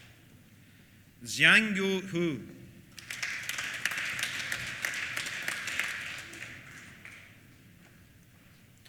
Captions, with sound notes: Xiangyu Hou. (APPLAUSE)